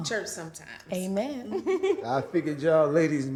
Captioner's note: chuckling